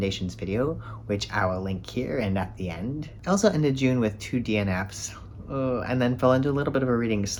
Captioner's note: groan